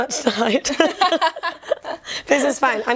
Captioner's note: laughter